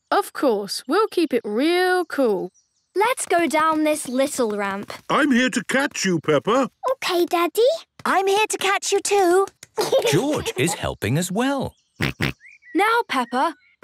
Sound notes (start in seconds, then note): 11.7 snorts